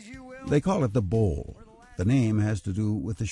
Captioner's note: voiceover